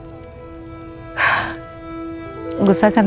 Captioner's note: Chuckles